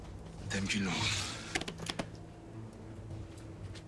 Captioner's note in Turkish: El vurma sesleri